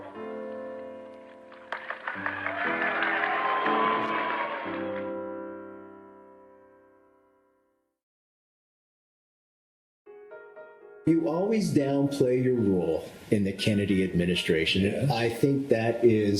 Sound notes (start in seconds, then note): 0.0 gentle uplifting music; 1.3 audience applauds; 1.6 audience cheers; 10.1 gentle upbeat music